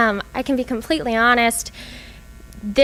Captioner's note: none